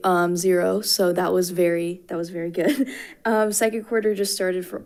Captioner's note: chuckles